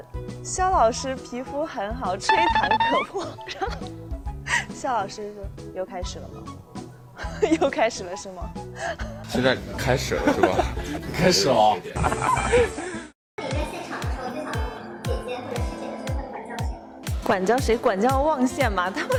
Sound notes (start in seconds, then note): 12.0 hahaha